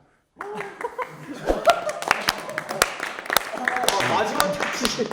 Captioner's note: soulful applause